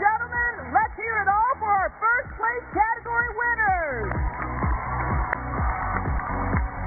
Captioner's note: cheers and applause